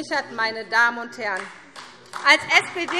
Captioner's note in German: Beifall SPD